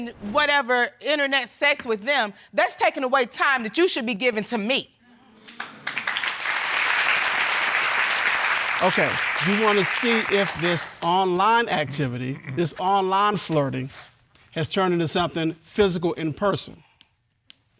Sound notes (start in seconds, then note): 5.5 audience applauding